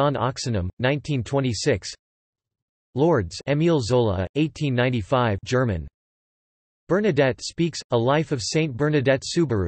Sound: German

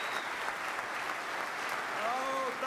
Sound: applause

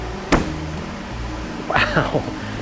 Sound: feet thud

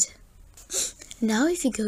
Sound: sniffs

